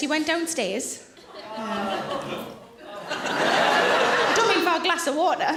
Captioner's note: audience laughing